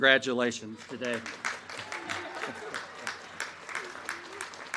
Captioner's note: crowd cheering